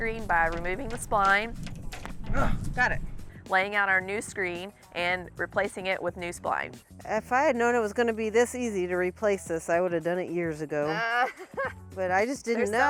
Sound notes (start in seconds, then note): 2.3 grunts; 10.8 laughs